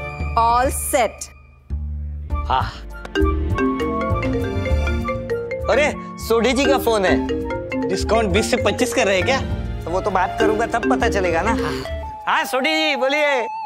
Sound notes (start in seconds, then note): 3.1 phone ringing